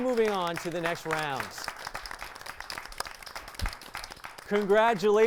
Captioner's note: applause